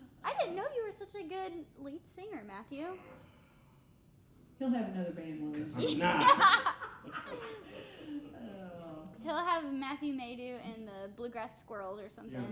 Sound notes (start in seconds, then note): 5.8 laughing